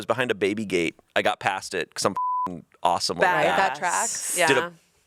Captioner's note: beep